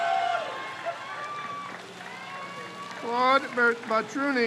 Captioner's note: crowd cheers